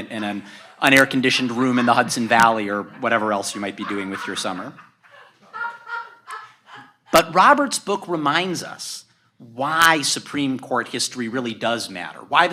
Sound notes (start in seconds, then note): 4.2 audience laughs